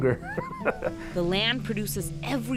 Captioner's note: laughing